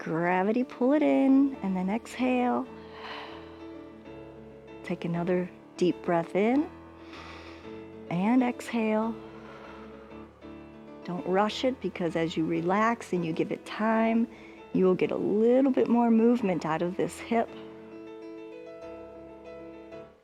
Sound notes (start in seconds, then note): 2.7 exhales; 9.1 exhales